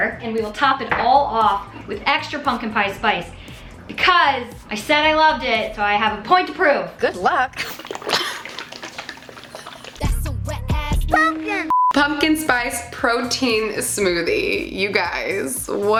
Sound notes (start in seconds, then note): 7.0 smoothie sloshing